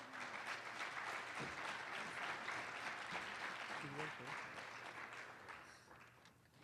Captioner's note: applause